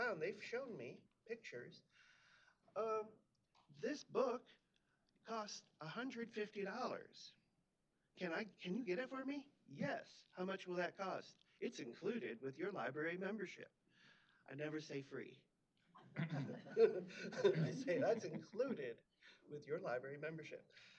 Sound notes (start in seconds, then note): 16.0 chuckling